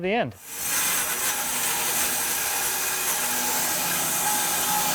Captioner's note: sawing machine whirring